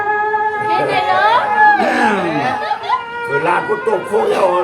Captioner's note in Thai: ปรบมือ